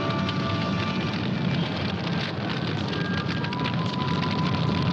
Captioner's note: eerie whistling